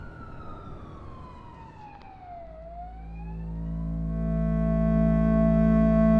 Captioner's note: distant police siren